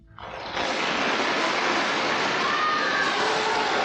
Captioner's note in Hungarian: kitörő vastaps, örömujjongás